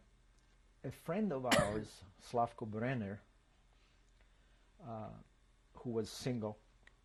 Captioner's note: pauses for 3 seconds